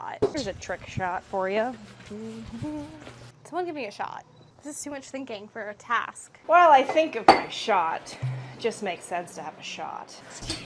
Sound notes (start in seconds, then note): none